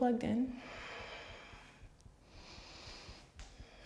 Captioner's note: deep breath